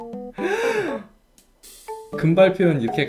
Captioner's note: gasps